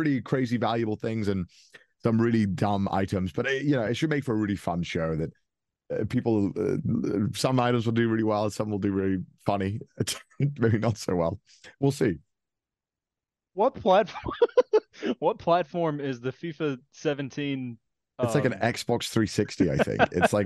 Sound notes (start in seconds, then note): 14.1 laughing